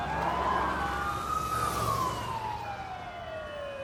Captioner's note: siren wailing